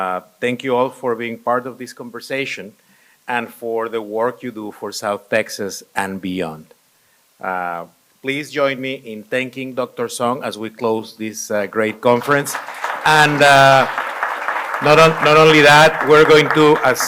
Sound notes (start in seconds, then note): 12.1 applause